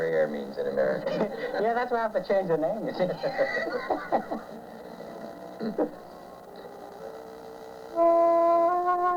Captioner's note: laughter